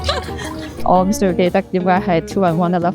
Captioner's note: Cantonese